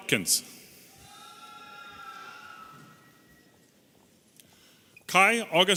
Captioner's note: audience cheering